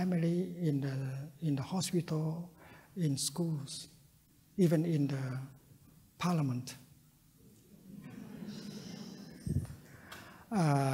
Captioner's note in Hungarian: nevetés